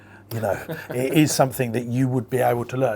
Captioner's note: laughing